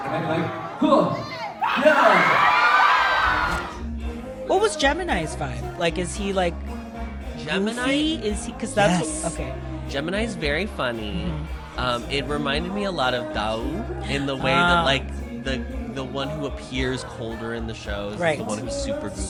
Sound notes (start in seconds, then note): 0.0 crowd cheers